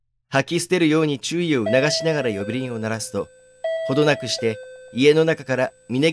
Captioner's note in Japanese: 呼鈴の音：ピンポーン